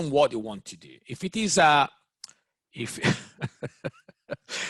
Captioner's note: laughs